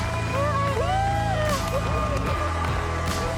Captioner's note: squeals